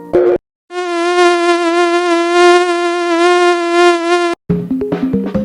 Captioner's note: mosquito sounds